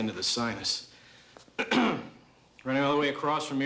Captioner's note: clears throat